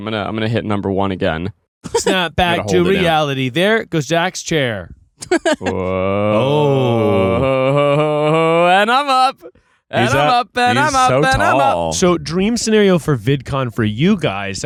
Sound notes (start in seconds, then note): 5.2 laughing